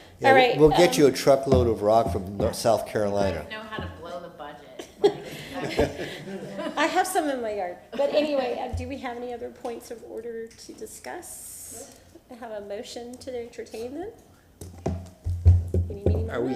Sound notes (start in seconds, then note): 4.8 laughs